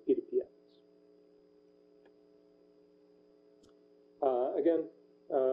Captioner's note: pause